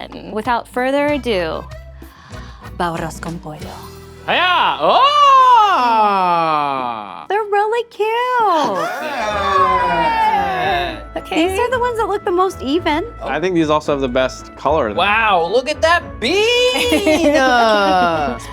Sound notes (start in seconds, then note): 8.5 all exclaiming; 12.8 upbeat music; 16.7 laughing